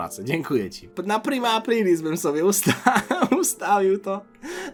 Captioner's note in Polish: śmiech